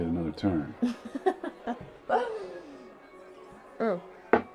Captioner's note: Alison laughing